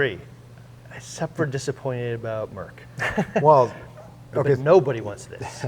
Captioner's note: laughs